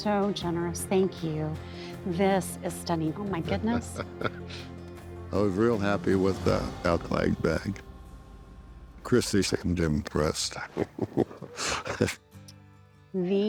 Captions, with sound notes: Oh, my gosh. You all are so generous. Thank you. This is stunning. Oh, my goodness. -[ Chuckles ] I was real happy with the elk-leg bag. Christy seemed impressed. [ Laughs ]